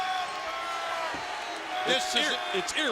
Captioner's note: crowd boos